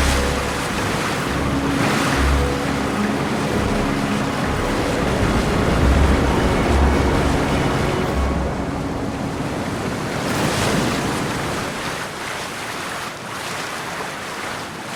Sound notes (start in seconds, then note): 9.0 waves lapping